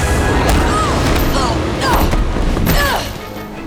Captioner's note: grunting